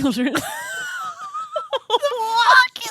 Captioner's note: laughing